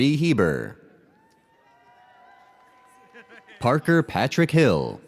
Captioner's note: audience cheers